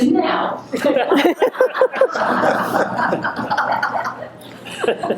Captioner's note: audience laughing